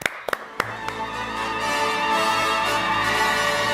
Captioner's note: applause